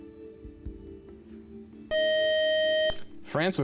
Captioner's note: time out buzzer